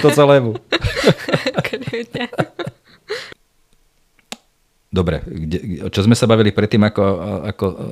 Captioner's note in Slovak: Smiech